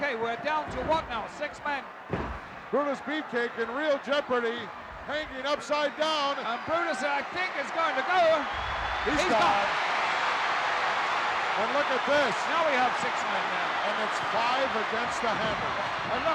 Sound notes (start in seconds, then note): 9.9 crowd cheering